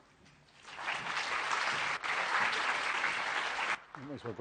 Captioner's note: applause